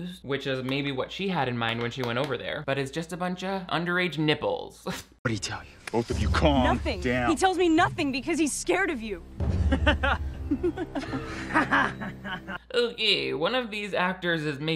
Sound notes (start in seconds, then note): 9.6 laughs; 10.5 Embry laughs